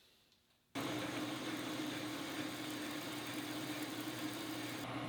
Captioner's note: machine whirring